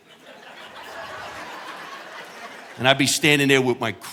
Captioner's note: audience laughing